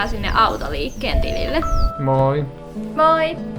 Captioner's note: phone ringing